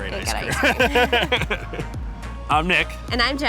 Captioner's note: laughs